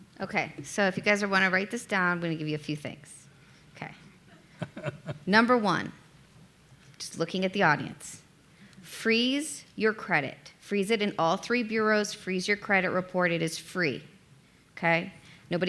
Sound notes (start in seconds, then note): 4.5 laughing